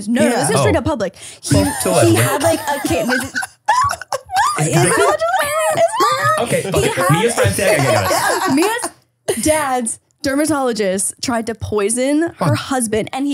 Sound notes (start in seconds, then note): 1.5 laughing